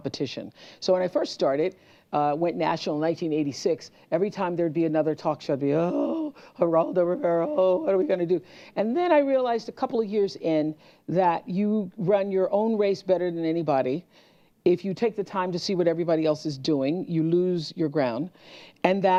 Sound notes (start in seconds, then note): 5.7 groan